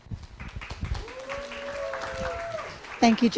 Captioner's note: applause, cheering